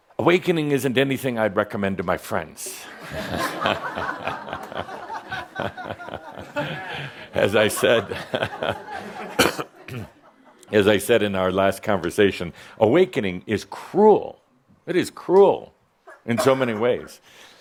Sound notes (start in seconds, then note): 2.9 laughter